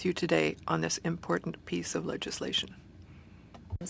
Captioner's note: speaking French